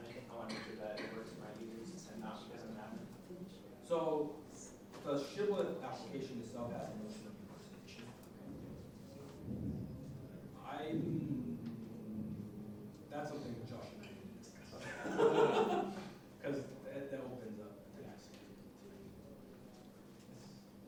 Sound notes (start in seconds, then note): 14.8 audience laughing